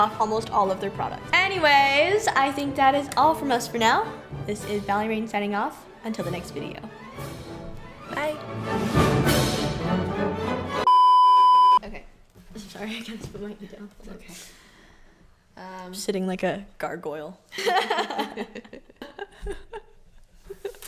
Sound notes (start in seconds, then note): 10.8 beep; 17.6 laughing